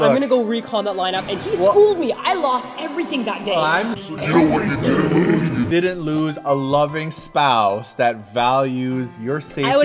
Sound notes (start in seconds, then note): 2.0 dramatic echoing voice; 4.4 monstrous groan of despair